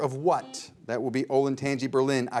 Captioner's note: buzzer beeps